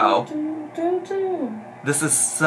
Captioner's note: humming